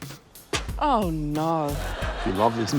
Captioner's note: laughter